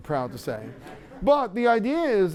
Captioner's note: laughter